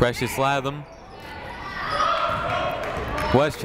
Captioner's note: people shouting in the crowd